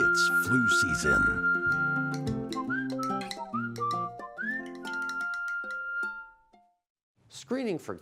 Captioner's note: whistling